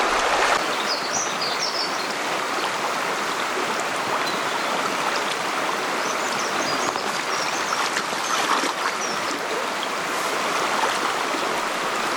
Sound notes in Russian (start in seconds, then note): 0.0 шум реки; 0.6 пение птиц